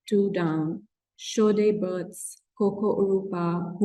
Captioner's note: non-english speech